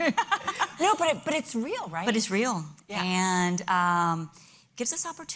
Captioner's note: laughter